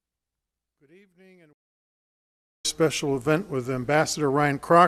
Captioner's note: voice cuts out